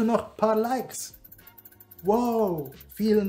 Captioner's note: ding, Ding, Ding